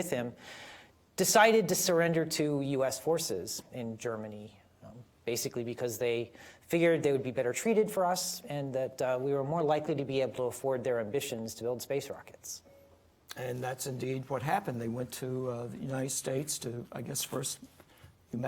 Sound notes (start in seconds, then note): none